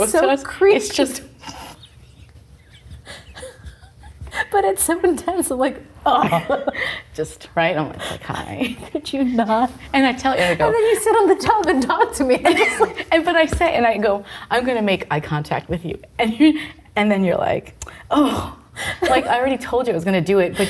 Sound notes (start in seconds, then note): 1.4 both laughing